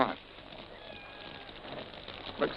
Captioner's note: cat meows